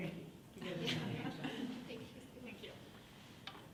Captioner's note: laughing